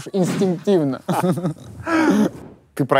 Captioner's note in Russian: смеются